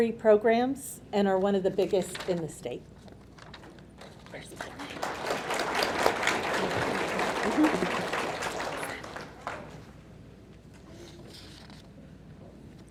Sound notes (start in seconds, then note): 4.3 audience clapping